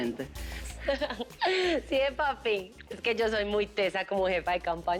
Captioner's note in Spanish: Riendo